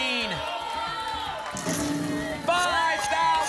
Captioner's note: cheering